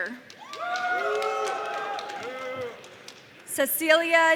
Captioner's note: audience cheering